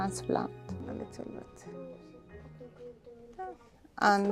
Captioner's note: speaking in foreign language